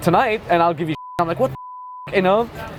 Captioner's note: beep